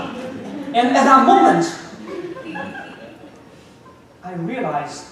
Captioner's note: audience laughing